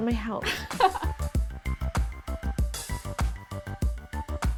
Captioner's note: laughs